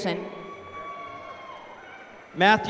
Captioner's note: applause